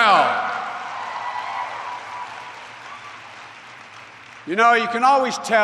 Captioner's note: applause